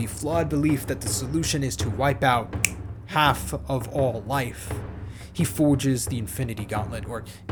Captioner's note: snaps fingers